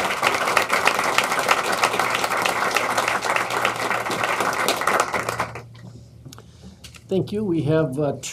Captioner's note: applause